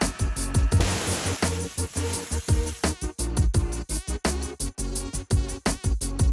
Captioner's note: upbeat music; tool whirs